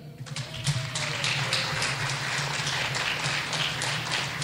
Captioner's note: clapping